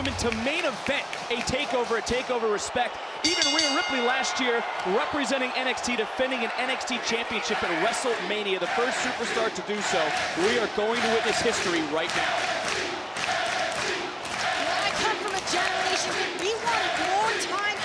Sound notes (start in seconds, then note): 3.2 bell ringing; 13.0 crowd cheering